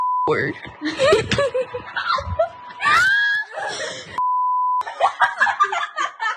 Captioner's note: laugh